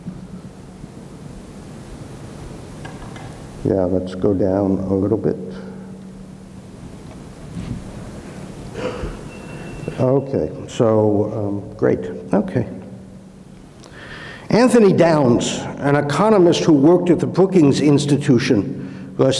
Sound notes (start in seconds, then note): 8.9 exhales; 13.8 inhales; 18.8 inhales